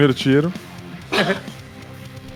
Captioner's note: chuckles